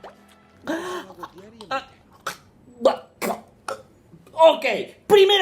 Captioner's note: gasps in disgustment